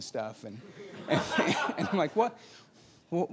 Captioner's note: laughing